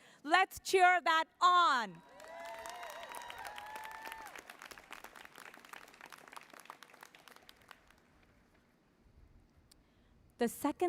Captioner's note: applause